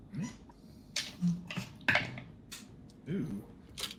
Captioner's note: dice rattling